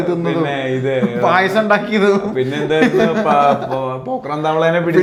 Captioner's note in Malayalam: പൊട്ടിച്ചിരി